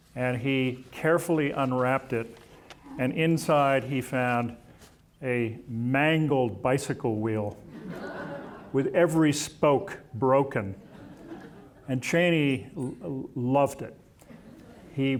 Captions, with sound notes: And he carefully unwrapped it, and inside, he found a mangled bicycle wheel... (audience laughing) with every spoke broken, and Cheney loved it.